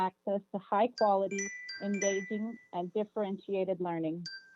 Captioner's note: chime